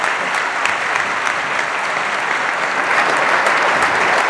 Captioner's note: applause